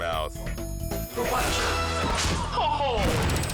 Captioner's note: honeydew thuds